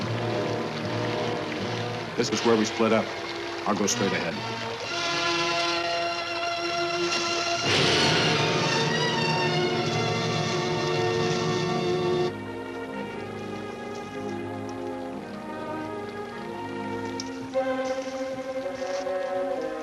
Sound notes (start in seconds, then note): 0.0 sewage splashing; 0.0 suspenseful music; 5.7 sewage splashing; 5.7 suspenseful music; 12.7 ominous music; 12.7 sewage splashing; 15.6 ominous music; 15.6 sewage flowing